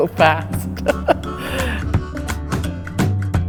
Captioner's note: laughter